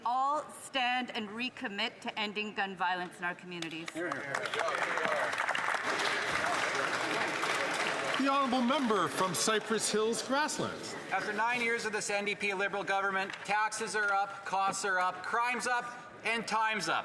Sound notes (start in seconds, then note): 7.0 some Applause